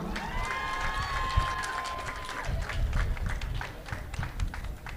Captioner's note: audience applauding